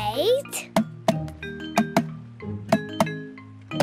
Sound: tapping

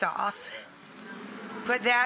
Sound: audience oohing

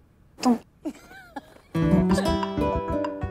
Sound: Sheena giggling

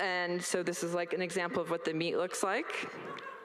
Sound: all laugh

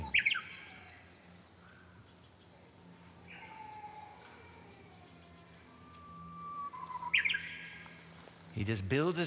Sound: bird singing

